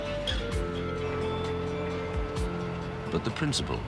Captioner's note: machine operating